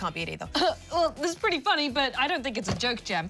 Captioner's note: chuckles